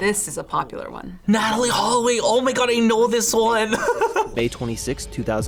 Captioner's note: laughs